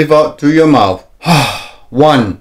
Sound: exhales

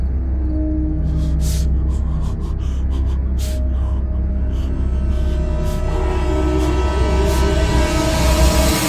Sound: painful gasping and panting

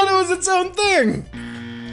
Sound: distant buzzer noise

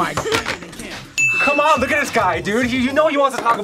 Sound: bell rings

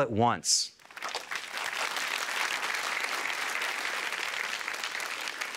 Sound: applause

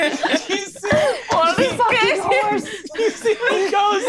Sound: all laughing

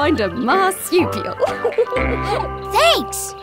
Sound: laughing

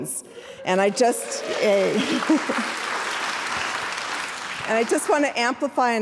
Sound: audience applauding

